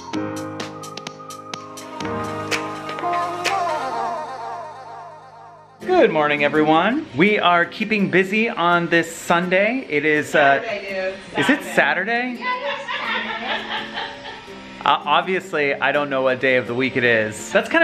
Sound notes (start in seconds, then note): 12.4 children laughing